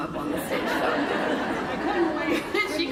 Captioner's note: laughter